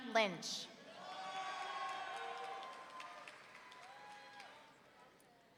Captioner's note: audience cheering